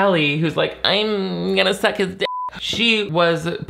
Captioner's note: beep